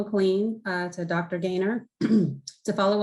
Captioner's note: clears throat